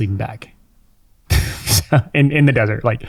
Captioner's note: chuckles